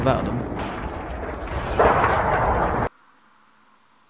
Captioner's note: sounds of battle in the background intensifies